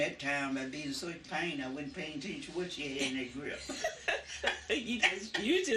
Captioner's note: laughter